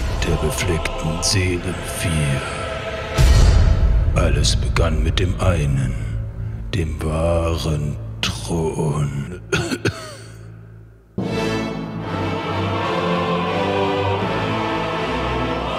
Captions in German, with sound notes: der befleckten Seelen vier. Alles begann mit dem einen, dem wahren Thron. (Husten) (Dramatische Musik)